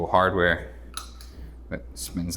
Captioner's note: door hardware clicks